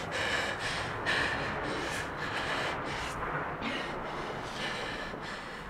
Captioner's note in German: Atmen wird ruhiger